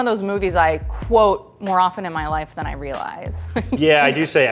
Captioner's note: laughs